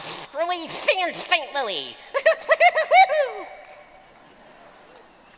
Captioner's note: Daffy Duck voice; chuckling